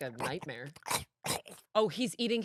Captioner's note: chomps